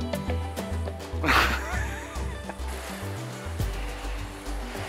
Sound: laughs

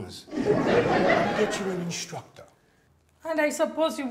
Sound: audience laughs

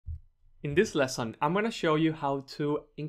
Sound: voiceover

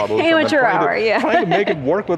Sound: laughs

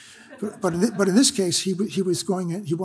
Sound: audience laughs

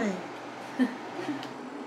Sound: instructor's satisfied laugh

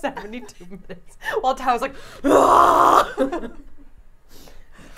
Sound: groaning

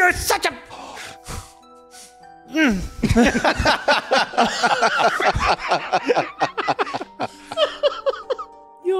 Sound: laughing

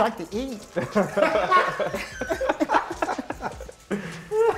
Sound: laughter

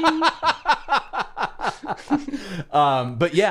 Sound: laughing

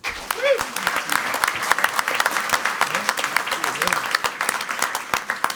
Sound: crowd clapping and cheering

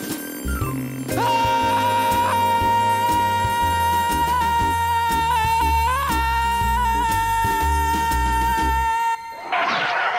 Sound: screaming!

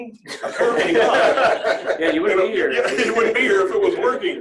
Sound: laughter

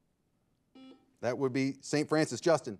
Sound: buzzer ringing

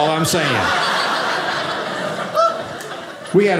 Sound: audience laughing

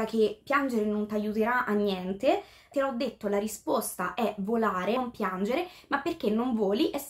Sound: translating in italian

